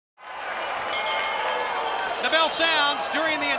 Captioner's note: crowd cheering; bell ringing